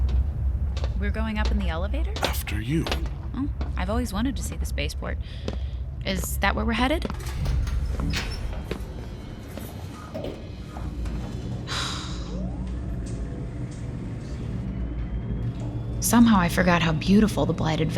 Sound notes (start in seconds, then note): 3.3 footsteps on metal, mechanical sounds, then elevator rising sounds